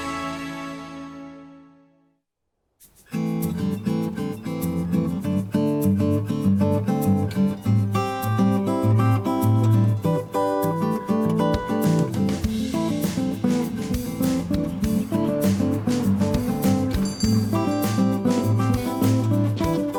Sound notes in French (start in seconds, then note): 3.3 musique douce; 7.9 gazouillis d'oiseaux; 17.0 sonnette de la porte